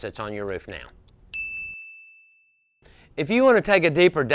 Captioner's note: bell dings